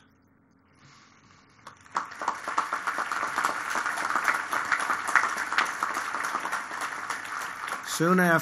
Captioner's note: applause